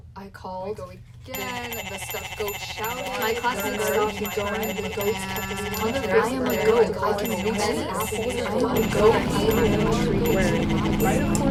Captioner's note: chaotic goat scramble